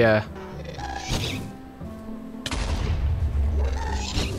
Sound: ghast shrieking

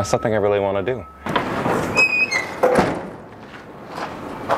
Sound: squeaking sound of hood

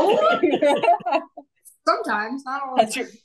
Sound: everybody laughing

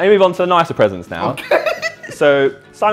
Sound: laughs

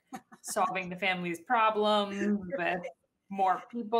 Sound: laughing

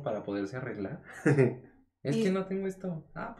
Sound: laughs

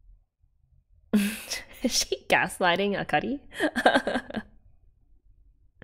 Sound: laughs

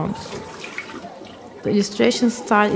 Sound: running water

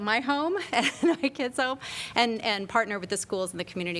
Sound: laughter

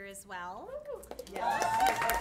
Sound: applause; cheering

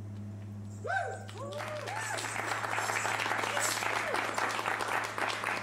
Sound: cheers and applause

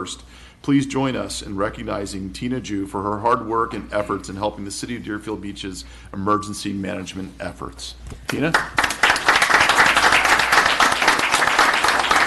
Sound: applause

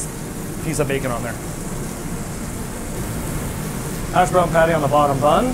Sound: grill sizzling

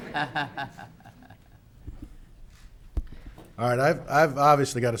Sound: audience laughing

